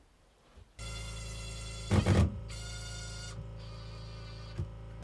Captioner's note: drill whirring